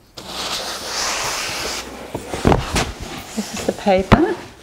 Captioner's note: paper rustles